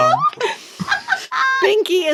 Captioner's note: laughing